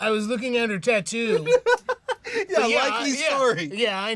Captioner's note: laughing